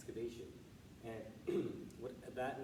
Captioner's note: clears throat